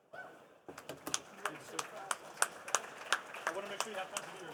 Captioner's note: participants applauding